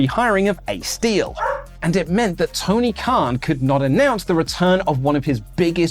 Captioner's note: woof